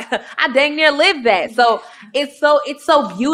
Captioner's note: chuckling